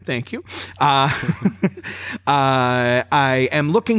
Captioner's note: laughter